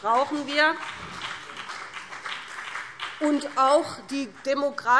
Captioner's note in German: Beifall BÜNDNIS 90/DIE GRÜNEN